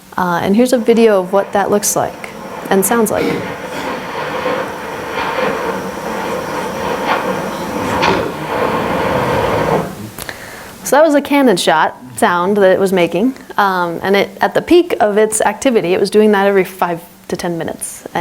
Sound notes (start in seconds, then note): 3.8 fissure roaring; 7.0 fissure blasting